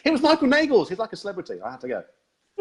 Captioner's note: laughs